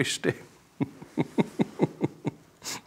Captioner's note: he laughs